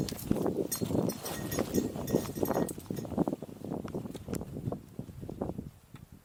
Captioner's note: goat bell ringing